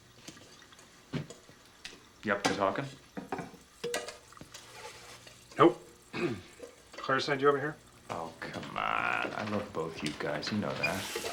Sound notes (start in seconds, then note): 6.1 clears throat